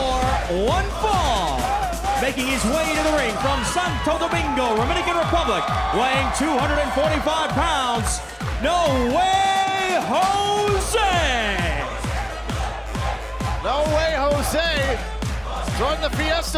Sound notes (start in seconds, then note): 11.0 crowd cheering